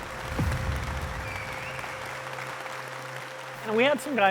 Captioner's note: applause